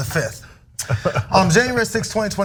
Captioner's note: laugh